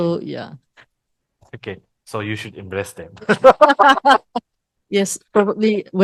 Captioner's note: laughters